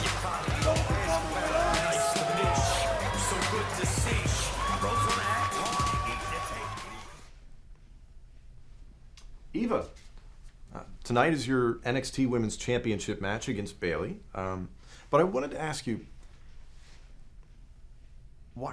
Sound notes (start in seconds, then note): 3.3 cheers & applause